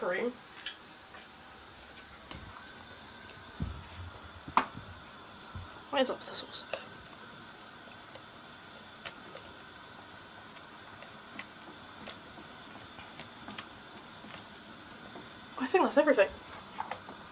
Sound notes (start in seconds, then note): 8.1 sizzling